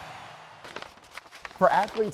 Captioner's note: paper rustles